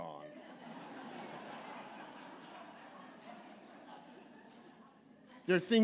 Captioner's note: laughter